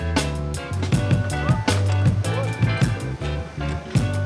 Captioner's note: chatter